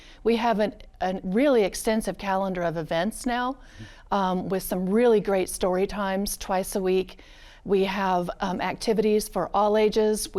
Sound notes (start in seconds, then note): none